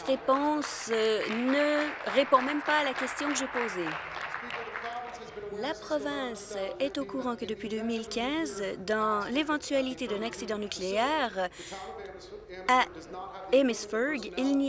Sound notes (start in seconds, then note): 5.6 applause